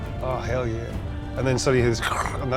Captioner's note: imitates crunching